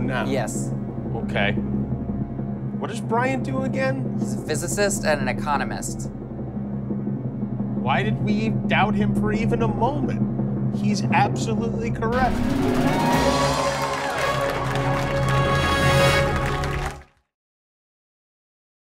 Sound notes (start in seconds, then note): 12.2 cheers and applause; 16.0 laughs